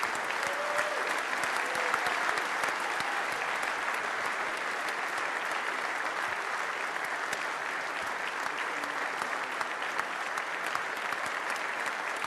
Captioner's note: applause